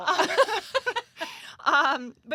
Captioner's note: laughter